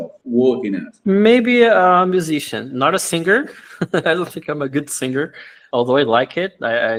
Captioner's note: laughs